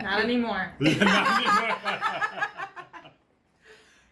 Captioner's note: all laugh